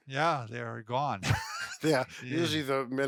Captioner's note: laughs